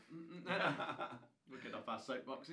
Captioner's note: laughing